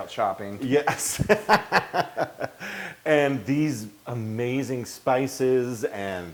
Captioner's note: laugh